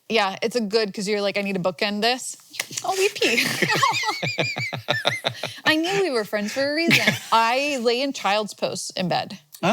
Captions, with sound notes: Yeah, it's a good 'cause you're like, I need to bookend this. (hands thwacking) Oh, we pee. (both laughing) I knew we were friends for a reason. I lay in child's posts in bed.